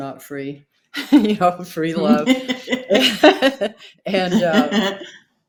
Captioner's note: both laughing